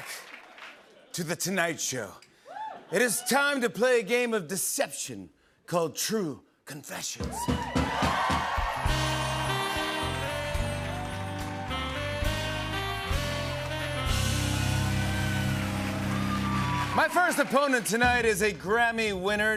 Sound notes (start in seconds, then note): 7.3 cheers and applause